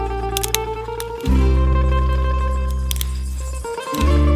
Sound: twigs snapping

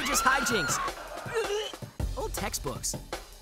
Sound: gagging

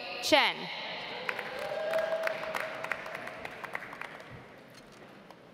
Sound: audience applauds

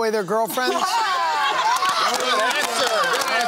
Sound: laughter

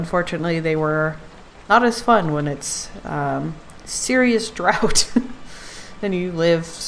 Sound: laughs

